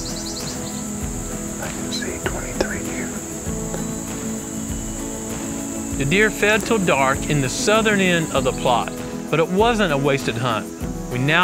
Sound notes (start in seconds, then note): 1.8 whispering